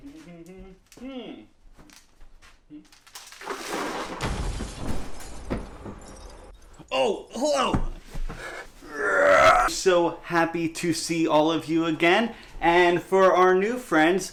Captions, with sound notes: [Explosion] Oh, hello! [groan] So happy to see all of you again and for our new friends